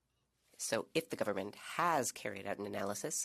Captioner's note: speaking French